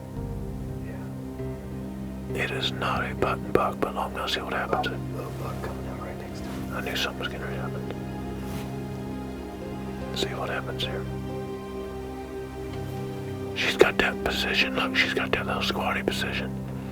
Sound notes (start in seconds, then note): 0.8 whispering